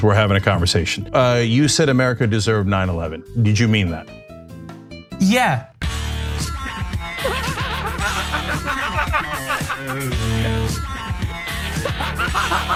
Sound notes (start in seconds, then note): 6.4 upbeat music; 7.2 laughing